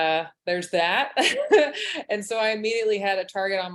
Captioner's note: chuckles